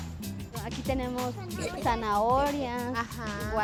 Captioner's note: speaking Spanish